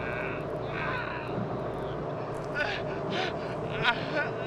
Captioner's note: Dave panting and groaning